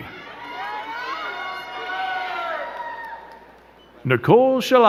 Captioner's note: crowd cheering and clapping